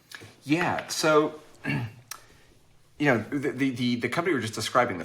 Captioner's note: clears throat